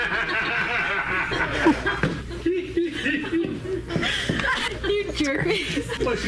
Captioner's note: laughing